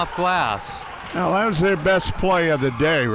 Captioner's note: crowd cheering